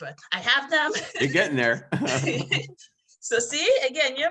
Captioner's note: laughs